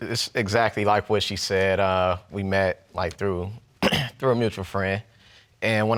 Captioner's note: clears throat